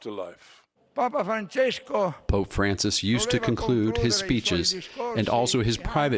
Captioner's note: through translator